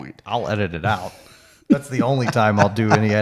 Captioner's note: chuckling